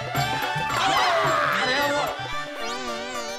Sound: screaming

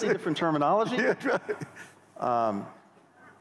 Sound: laughter

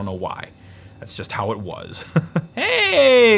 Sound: laughs

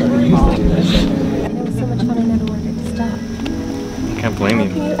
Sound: background chatter

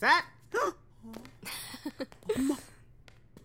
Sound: gasps; laughs

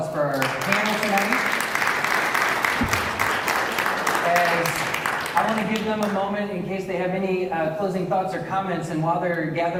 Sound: applause

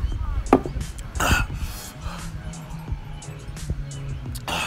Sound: gasping

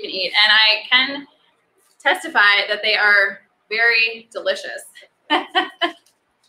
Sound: laughs

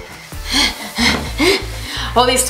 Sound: gasps

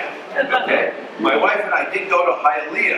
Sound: laughs

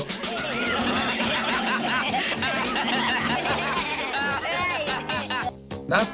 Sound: gang laughs

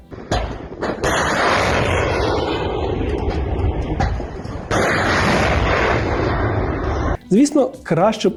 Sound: launch of the Ukrainian cruise missile «Neptune»

